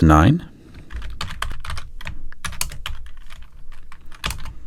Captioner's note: typing